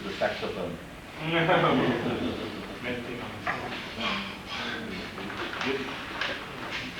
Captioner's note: laughter